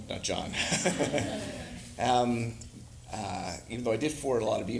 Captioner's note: all laughing